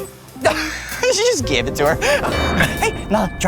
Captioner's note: laughs